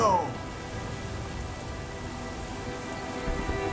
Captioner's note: sound of rain falling